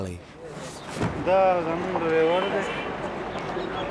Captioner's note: foreign language